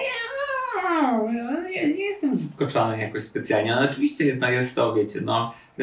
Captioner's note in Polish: cmoknięcie